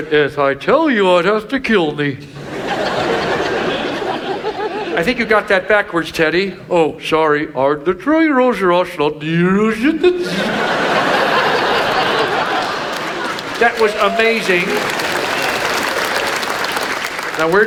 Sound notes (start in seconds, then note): 2.2 audience laughs; 7.6 Ted E mimics; 9.9 audience laughs; 14.8 audience applauds